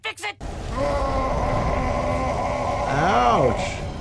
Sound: groaning

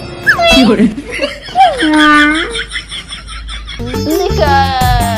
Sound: laughing

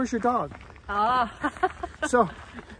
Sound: laughs

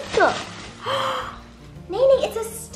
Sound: gasp

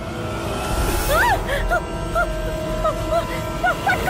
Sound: groans

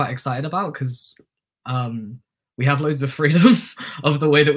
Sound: chuckles

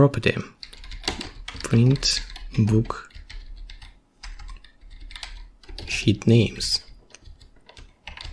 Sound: typing

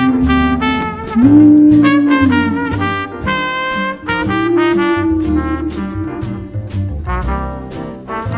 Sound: various Dinosaur sounds

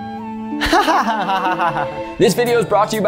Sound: laughs

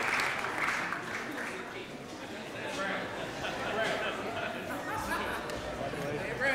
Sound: indistinct chatter

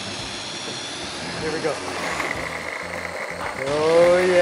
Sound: whirring

